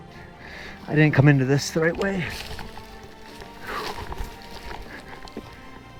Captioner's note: breathing